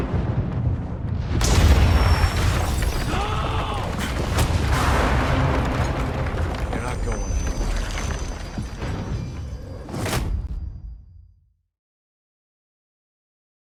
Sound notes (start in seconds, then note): 3.0 screams